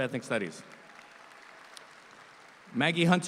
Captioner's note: audience applauds